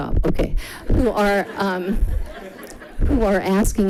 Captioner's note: people giggling